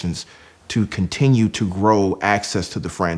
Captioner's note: none